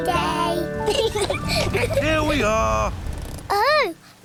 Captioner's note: both laugh